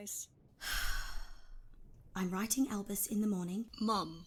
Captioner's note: Euphemia sighs